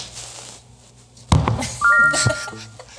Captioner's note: bucket slams; text chiming brightly; laughing